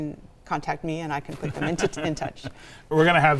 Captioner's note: laughs